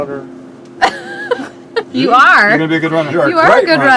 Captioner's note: laughs